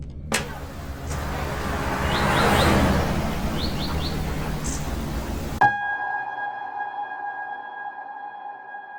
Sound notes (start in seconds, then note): 0.3 door shutting; 2.2 birds chirping; 6.0 unsettling music